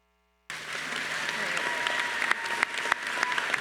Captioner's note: all applauding